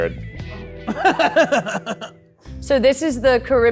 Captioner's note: laughs